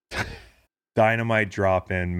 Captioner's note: laughing